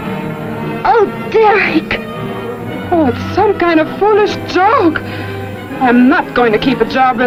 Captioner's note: ominous music; scream